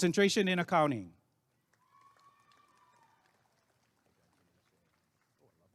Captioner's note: applause and cheering